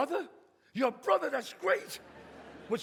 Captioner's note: audience laughs